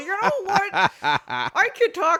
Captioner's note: cackles